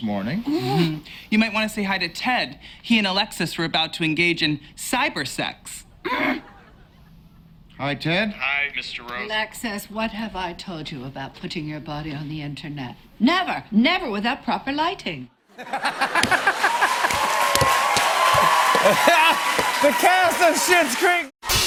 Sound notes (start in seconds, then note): 5.7 grunts in frustration; 15.5 laughter; 15.7 cheers and applause